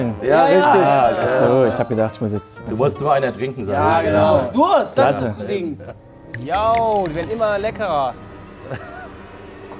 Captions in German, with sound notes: Richtig. - Ja-ja. Ich hab gedacht, ich muss ... - Du wolltest weitertrinken. Genau. - Du hast Durst! (Schluckgeräusche) Jo, immer leckerer. (Unheilvolle Musik)